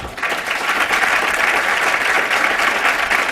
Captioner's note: applause